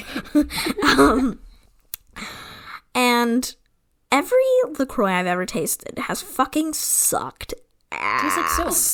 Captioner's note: laughs